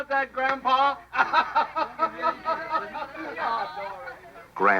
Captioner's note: laughter